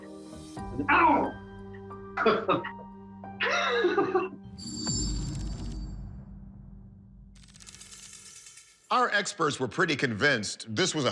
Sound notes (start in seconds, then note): 2.2 laughs